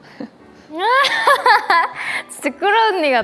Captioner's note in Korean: 빵 터짐